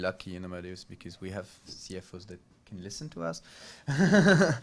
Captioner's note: laughs